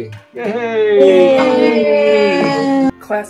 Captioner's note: cheering